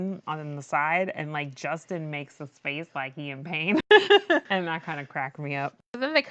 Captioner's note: laughs